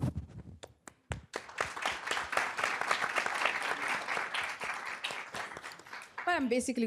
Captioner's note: applaue